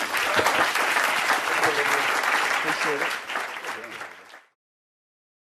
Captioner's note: audience applause